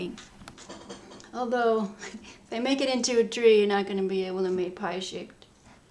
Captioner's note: chuckling